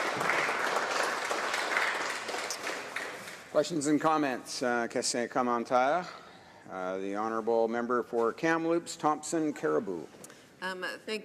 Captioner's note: some Applause